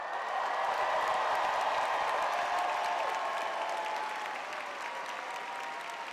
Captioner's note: audience cheering